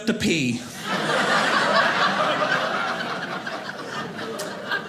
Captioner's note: audience laughing